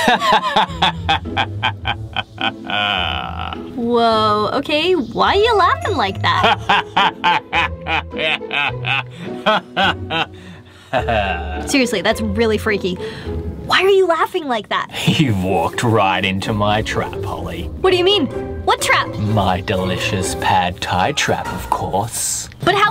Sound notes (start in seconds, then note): 0.0 sinister laugh; 6.3 continues sinister laughing